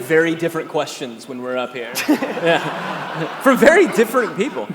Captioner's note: audience laughing